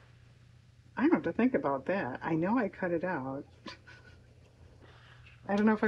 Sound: laughs

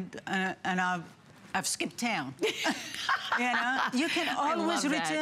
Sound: laughter

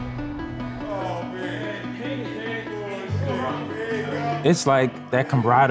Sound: indiscernible chatter

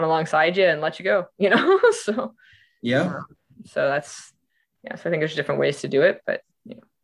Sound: laughing

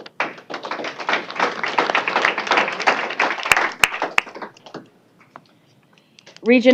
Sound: applause

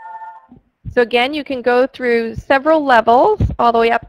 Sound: voiceover

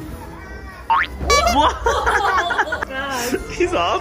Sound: horn honks; laughing

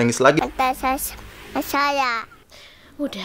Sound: toddler voice

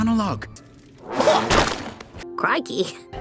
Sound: vomit noise

